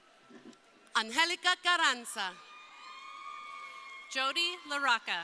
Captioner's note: crowd cheering